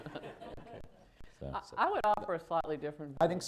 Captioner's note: laughter